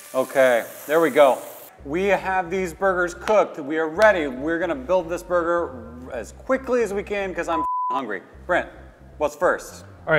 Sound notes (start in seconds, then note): 3.2 claps hands